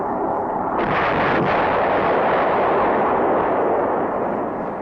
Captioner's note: rocket exploding